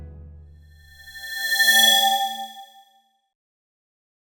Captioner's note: swoosh